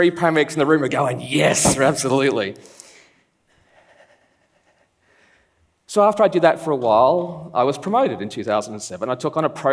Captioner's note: laughs